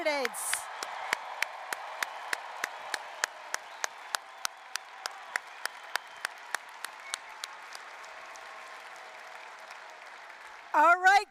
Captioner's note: applause, cheering